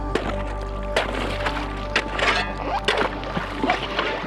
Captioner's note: ice breaking